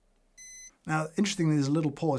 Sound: coffee machine beeps

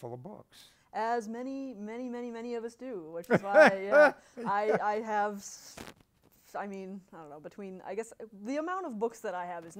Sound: laughter

